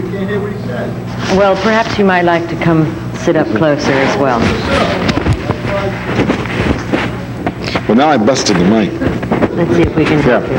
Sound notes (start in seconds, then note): 4.8 static crackling drowns out speaker